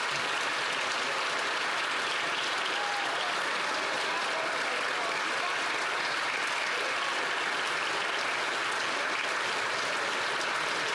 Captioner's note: applause